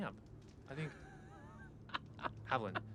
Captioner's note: Haviland laughs